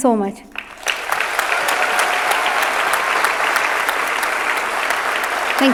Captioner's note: audience clapping